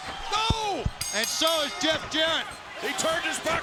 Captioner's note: Scott exclaims